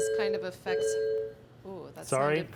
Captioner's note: beeping